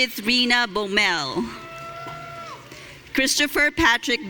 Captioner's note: audience cheering